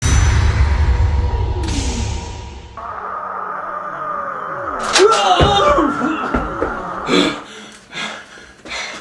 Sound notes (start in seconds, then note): 6.8 portal closes